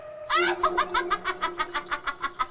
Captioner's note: scary laughter